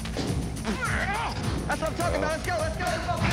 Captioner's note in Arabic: خرخرة